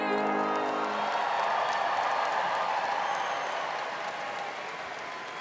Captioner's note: students cheering and applauding